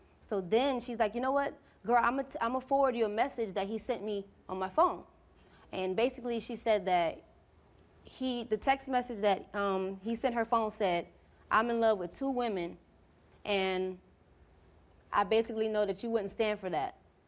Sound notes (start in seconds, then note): none